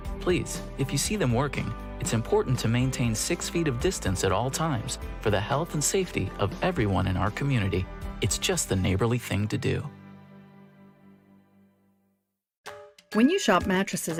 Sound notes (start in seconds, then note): none